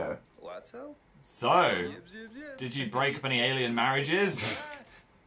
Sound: laughs

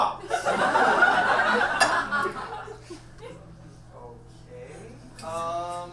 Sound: audience laughs

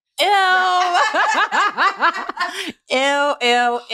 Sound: laughter

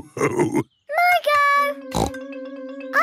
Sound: snorts

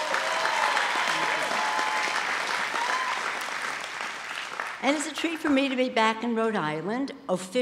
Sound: applause

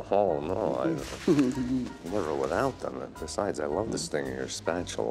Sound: chuckling

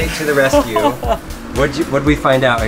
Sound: laughs

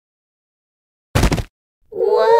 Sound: thud!

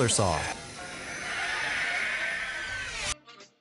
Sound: saw buzzing

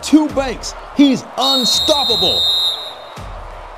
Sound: whistle blast

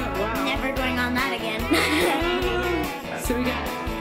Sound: laughs

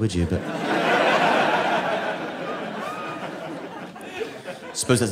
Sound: audience laughing

